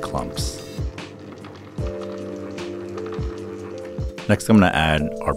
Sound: mixer whirring

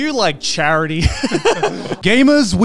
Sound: all laughing

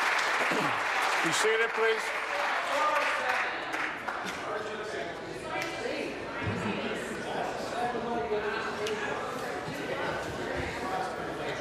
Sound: applause

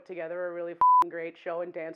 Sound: beeping

